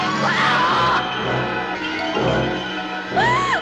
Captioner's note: screaming